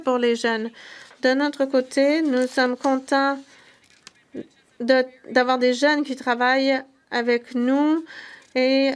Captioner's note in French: voix de l'interprète